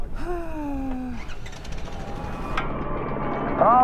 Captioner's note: sighs